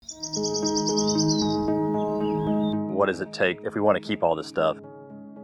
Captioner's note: birds chirping